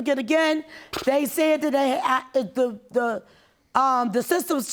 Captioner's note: stammering